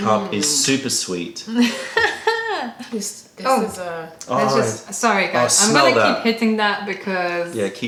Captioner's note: laughter